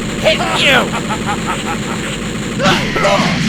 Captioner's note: laughing